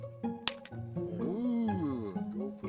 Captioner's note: sound of rocks smashing together